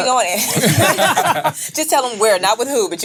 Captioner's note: laughs